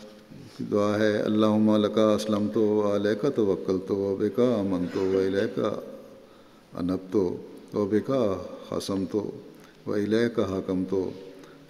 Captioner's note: Arabic